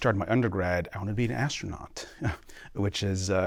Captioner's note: laughter